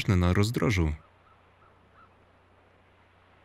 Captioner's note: none